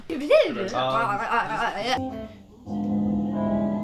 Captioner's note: speaking gibberish